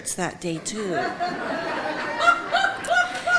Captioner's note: audience laughing